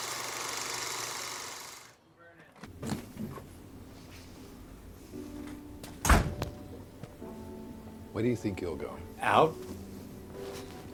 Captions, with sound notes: (door clatters) (gentle music) - Where do you think you're going? - Out.